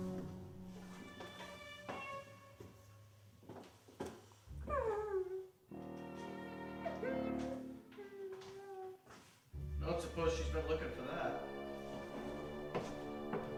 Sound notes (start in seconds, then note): 4.9 woman whimpering